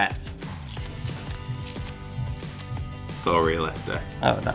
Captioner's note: squirt gun spraying